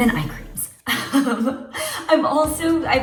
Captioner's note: laughs